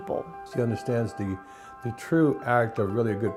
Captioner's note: voiceover